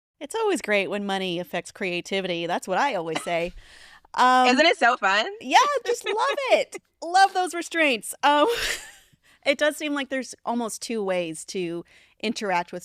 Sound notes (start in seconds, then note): 5.8 chuckles; 8.7 chuckles